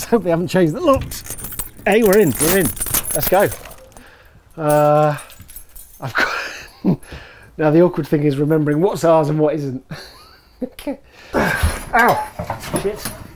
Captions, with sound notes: Let's hope they haven't changed the locks...eh, we're in! Let's go! The awkward thing now is remembering what is ours and what isn't (laughs) OW! ****